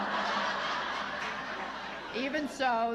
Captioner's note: laughter